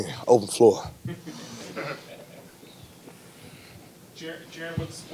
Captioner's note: reporters laugh